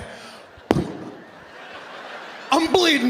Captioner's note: Sebastian smacks mic; audience laughing